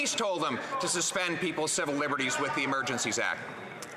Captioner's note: none